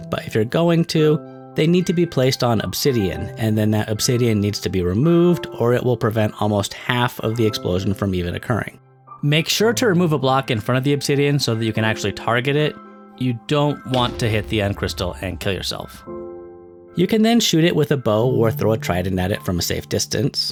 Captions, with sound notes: but if you're going to, they need to be placed on obsidian, and then that obsidian needs to be removed or it will prevent almost half of the explosion from occurring. Make sure to remove a block in front of the obsidian, so that you can actually target it. You don't want [EXPLOSION] to hit the end crystal and kill yourself. You can then shoot it with a bow, or throw a trident at it from a safe distance.